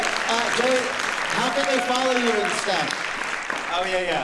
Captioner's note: applause